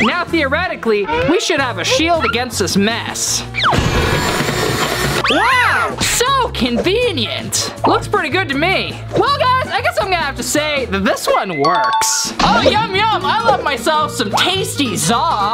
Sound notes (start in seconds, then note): 3.7 mixer motor whirring; 11.8 tinkling